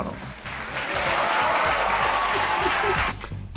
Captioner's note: applause